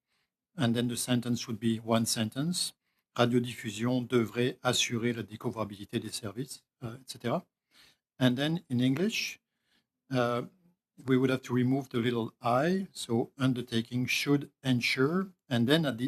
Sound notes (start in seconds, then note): 2.9 speaking French; 7.4 speaking French